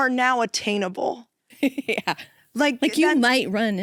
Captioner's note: laughs